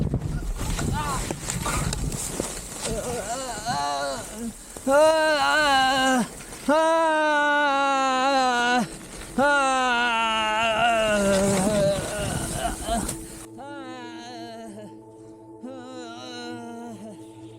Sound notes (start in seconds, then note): 2.8 groaning in pain and gasping for air